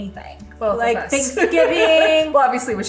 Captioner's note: laughs